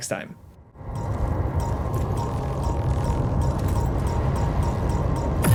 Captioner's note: game sound effects